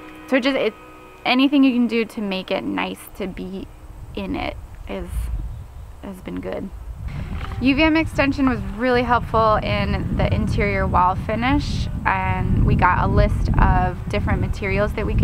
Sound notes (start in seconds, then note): 11.2 wind whooshing